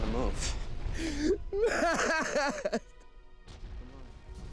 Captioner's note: crying